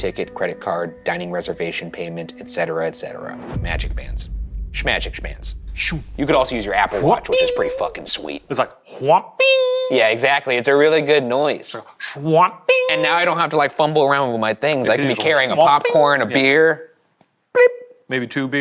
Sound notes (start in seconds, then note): 8.9 mimics MagicBand chiming; 12.7 Shane mimics MagicBand chiming; 17.6 mimics scan beeping